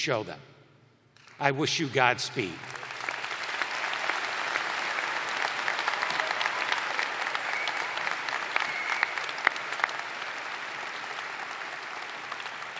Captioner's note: applause